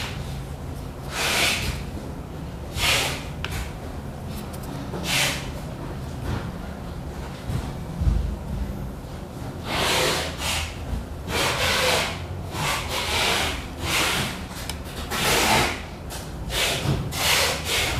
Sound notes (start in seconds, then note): 3.0 print head noise